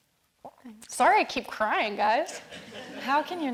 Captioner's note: all laughing